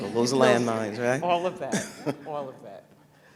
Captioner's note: laughter